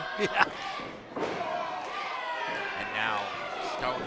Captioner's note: chuckles